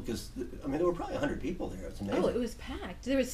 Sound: voiceover

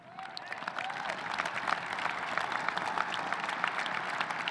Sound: audience applauding

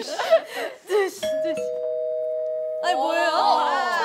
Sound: ding dong

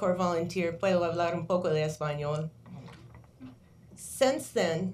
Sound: foreign language

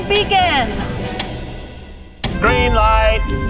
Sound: counter ticking

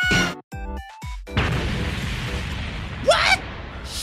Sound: screams; explosion

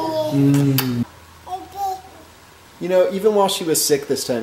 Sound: babbling

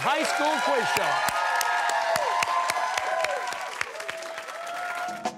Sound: cheers and applause

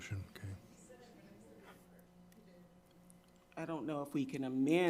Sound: staff member speaking faintly

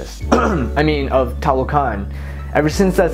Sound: ahem

